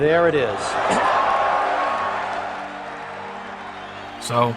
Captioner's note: audience cheers